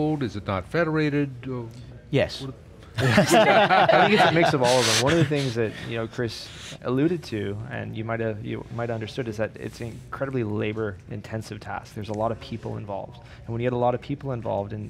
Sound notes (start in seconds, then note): 2.9 all laughing